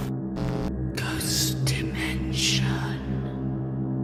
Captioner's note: ghostly Voice